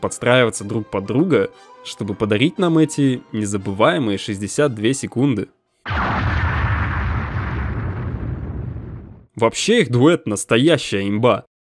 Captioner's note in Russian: взрыв